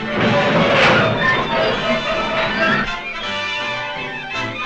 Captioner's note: metal screeches